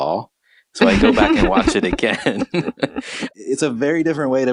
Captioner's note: laughs